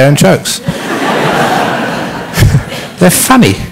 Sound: laughter

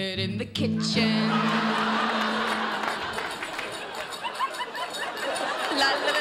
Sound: audience laughing and applauding

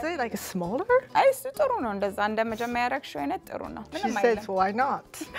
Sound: speaking Amharic

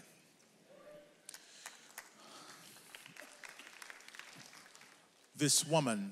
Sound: audience members applaud

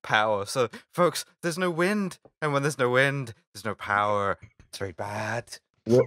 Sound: Trump voice

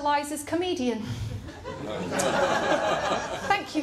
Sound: laughter

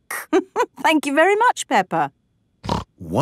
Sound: laughing; snorting

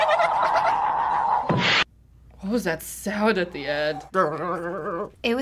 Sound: loud whoosh; vocalizing

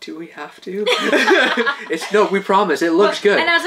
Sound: laughing

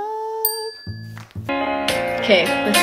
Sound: bell dings

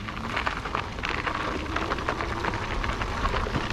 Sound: tire rumbling

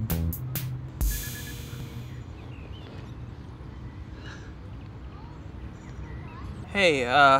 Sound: beeping

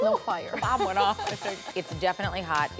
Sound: laughter

